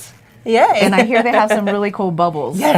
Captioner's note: laughing